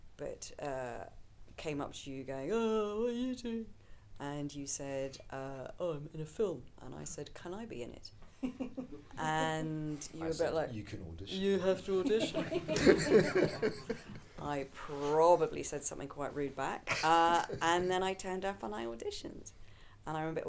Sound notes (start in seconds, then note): 8.7 audience laughing; 12.1 audience laughing